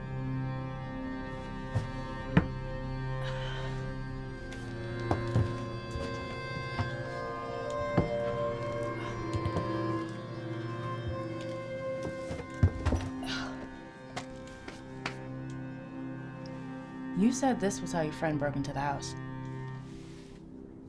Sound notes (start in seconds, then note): 0.1 suspenseful music continues; 3.2 Claire sighs; 9.9 suspenseful music continues; 13.5 Rachel grunts